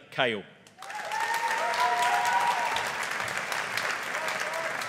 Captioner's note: audience applauding